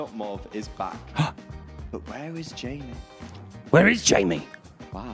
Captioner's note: Hes gasps